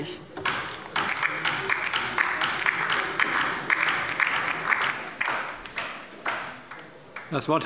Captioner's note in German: Beifall bei der LINKEN